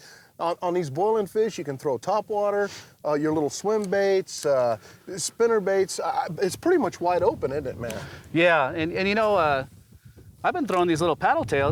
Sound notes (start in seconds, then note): none